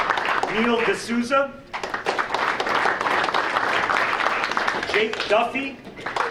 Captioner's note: audience applauding